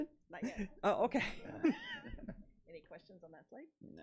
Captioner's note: laughs